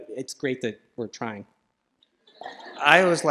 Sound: laughter

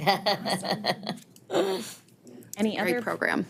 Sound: all chuckling

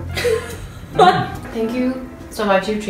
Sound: laughs

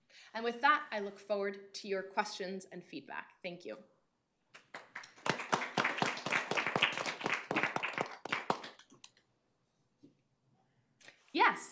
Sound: audience applause

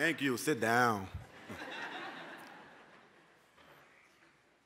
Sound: laughter

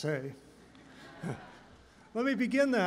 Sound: laughter

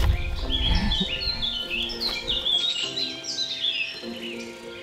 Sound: laughs at him

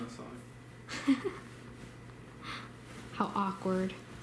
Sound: laughs

